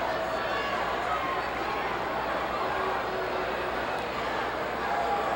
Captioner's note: audience chattering continues